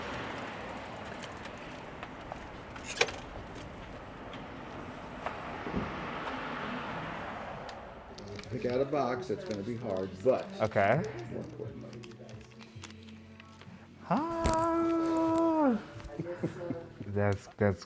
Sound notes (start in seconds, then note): 2.7 bike stand clacks; 14.0 chuckles